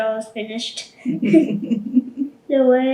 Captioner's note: laughing